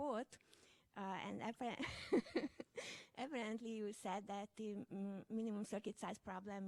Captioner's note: laughs